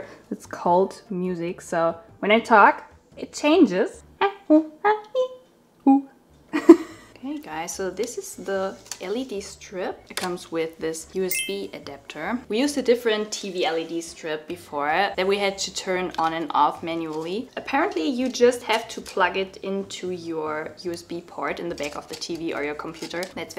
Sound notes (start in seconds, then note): 6.6 laughing; 11.3 bell chime